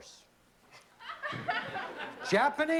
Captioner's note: laughter